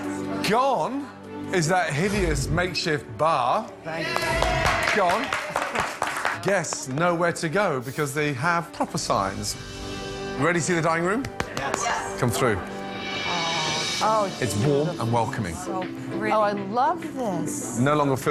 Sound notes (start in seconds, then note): 4.0 cheers and applause